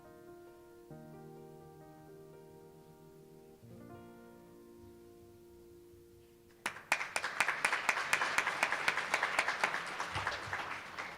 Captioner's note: applause